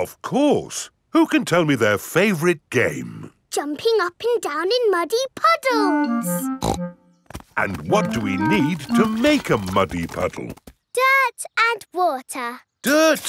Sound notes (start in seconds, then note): 6.6 snorts